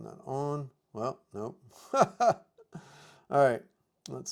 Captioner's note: laughs